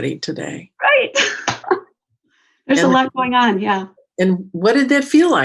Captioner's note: laughs